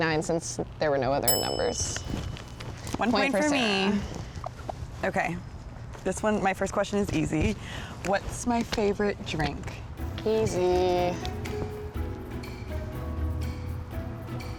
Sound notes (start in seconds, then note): 1.2 bell tings; 10.0 bright music